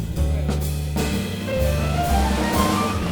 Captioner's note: audience applauds; smooth jazz music